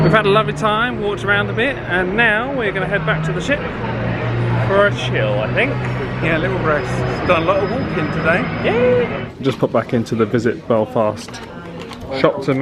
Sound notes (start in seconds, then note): none